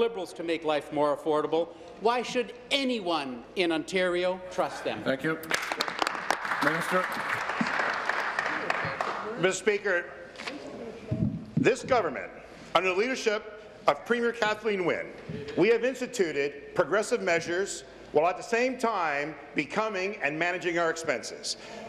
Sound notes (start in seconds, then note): 9.7 applause